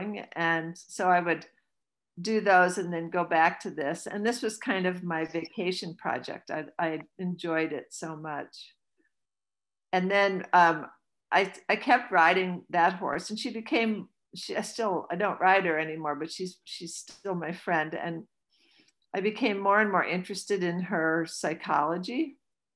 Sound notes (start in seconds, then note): none